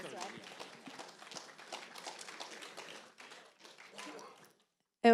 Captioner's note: applause